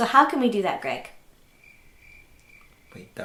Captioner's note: crickets chirping